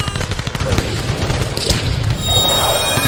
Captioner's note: yet more Battle sounds